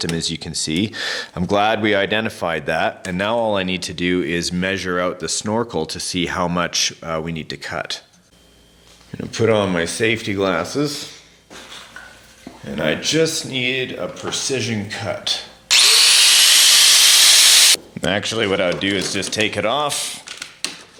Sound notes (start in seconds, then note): 15.7 cutter whirling